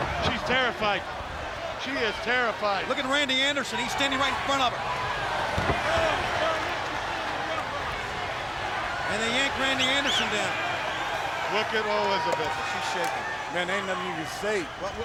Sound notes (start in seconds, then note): 5.6 body thudding; 5.8 crowd cheering